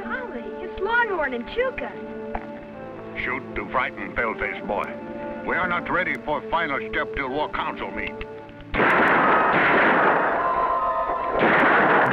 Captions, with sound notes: - Golly, it's Long Horn and Chuka. - Shoot to frighten pale face boy. We are not ready for final step to war council meeting. (guns blasting)